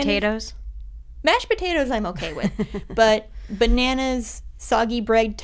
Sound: laughter

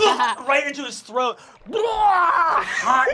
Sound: barfs

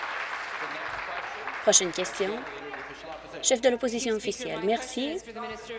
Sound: applause

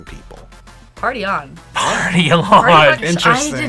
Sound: laughs

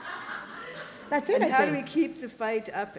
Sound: laughter

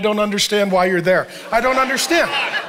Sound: congregation laughing

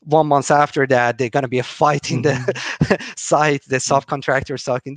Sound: chuckling

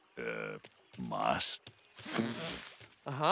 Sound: rustling

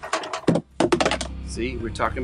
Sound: clattering

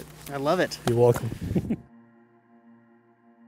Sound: chuckles

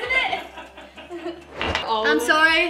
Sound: laughing

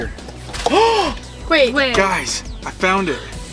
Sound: dad gasps

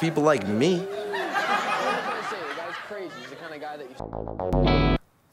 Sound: audience laughs

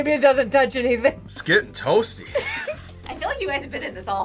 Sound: laughs

